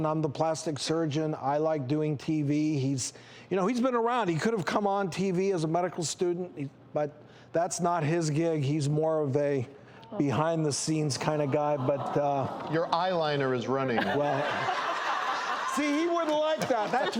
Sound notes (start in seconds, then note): 12.1 audience awwing; 13.9 audience laughing